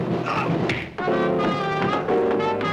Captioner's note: men grunting; fists whack; bodies rumbling